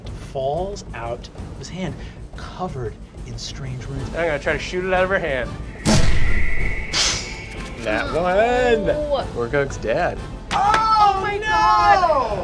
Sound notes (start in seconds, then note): 5.8 explosive noises